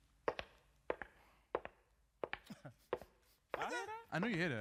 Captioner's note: footsteps tapping